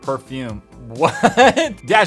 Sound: laughs

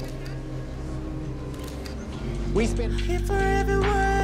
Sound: cameras clicking

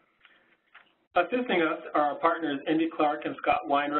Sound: voiceover

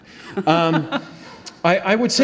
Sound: audience laughs

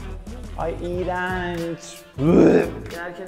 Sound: gags

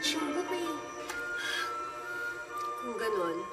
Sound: mom sighs

